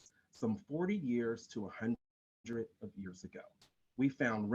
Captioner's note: audio skips